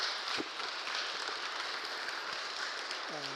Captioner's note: applause